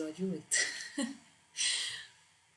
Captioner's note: laughing to myself